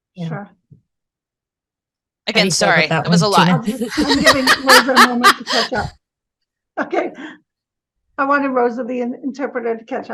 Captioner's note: laughing